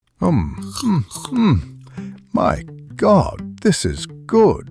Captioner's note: obnoxious eating sounds